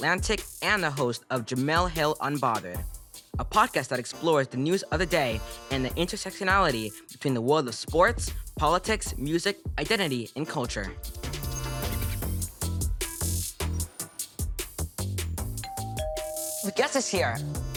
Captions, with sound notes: and a host for Jemele Hill Unbothered. A podcast that explores the news of the day and the intersectionality between the world of sports, politics, music, identity, and culture. [bell ringing] The guest is here.